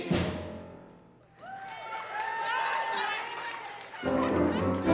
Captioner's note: audience applauds and cheers; upbeat music